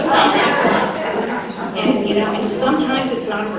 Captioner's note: laughter